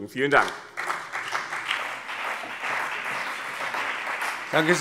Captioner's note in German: Beifall BÜNDNIS 90/DIE GRÜNEN